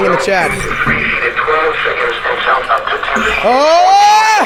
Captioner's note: radio voices